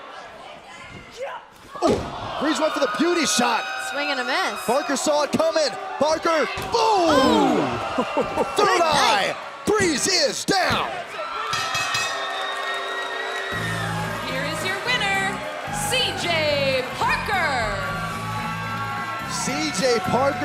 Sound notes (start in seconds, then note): 9.6 bell ringing; 13.4 crowd cheering